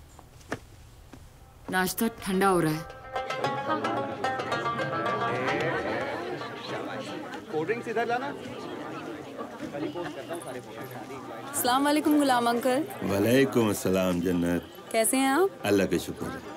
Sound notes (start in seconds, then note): 1.7 People talking; 2.2 Instrumental music playing